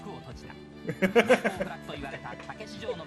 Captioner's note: laughs